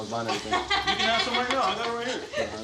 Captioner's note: laughing